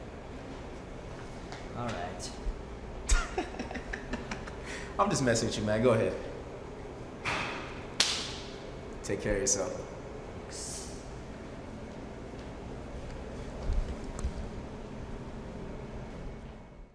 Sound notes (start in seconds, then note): 1.5 laughter